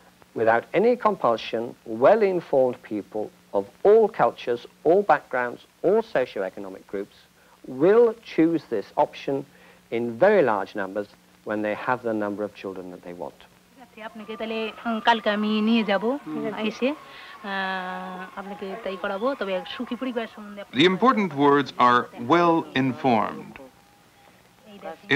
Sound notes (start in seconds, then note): 13.8 woman speaking Bengali